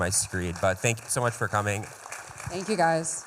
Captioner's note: applause